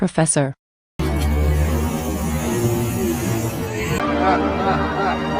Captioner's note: Cat Princess Nika hisses; Cat Puma the Weirdo evil laugh